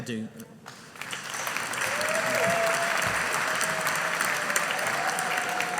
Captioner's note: audience applauding